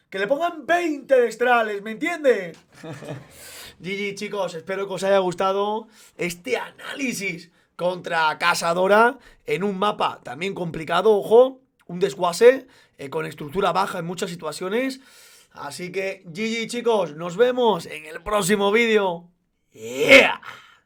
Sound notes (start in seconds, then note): 2.6 chuckles in Spanish